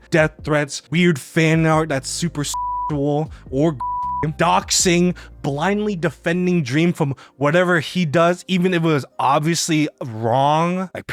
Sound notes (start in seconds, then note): 3.7 beeps